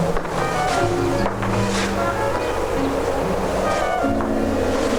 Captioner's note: footsteps tapping; dramatic music